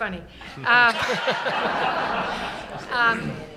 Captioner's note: laughter